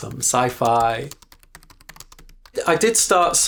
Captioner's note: keyboard typing